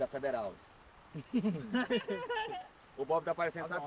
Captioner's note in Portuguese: risadas